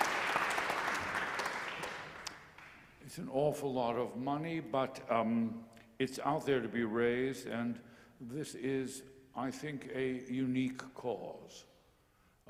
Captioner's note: applause